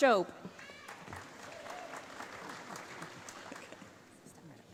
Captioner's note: applause